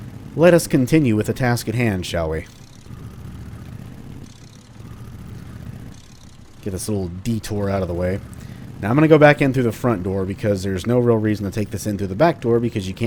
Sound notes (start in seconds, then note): none